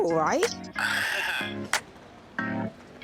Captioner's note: laughs